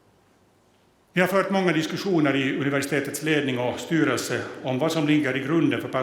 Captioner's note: speaks Swedish